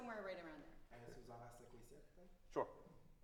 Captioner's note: speaks in foreign language